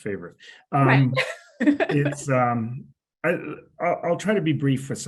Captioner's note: laughs